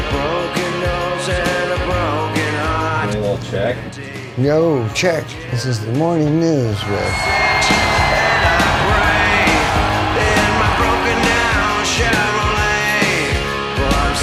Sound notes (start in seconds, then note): 6.6 audience cheering